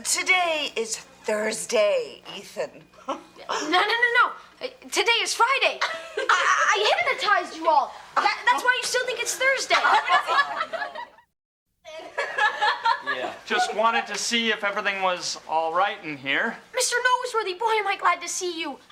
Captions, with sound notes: - Today is Thursday, Ethan. - No, no, no, no. Today is Friday. (Morgan laughs) I hypnotized you all. That's why you still think it's Thursday. (students laughing) (students laughing) - Just wanted to see if everything was all right in here. - Mr. Noseworthy! Boy, am I glad to see you.